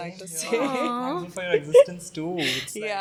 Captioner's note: laughing